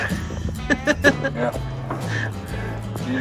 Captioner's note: laughter